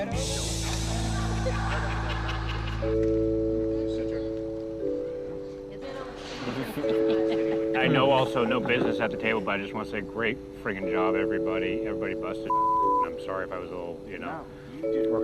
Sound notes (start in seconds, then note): 0.6 laughter; 6.4 light laughter